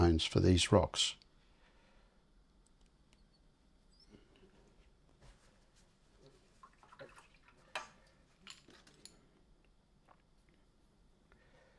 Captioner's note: silence